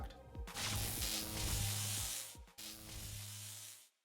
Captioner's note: electric Buzz